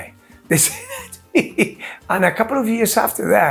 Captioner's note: chuckles